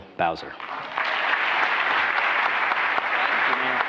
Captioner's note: applause